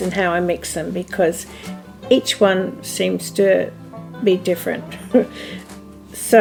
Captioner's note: laughs